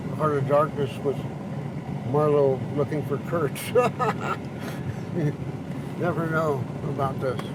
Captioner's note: laughs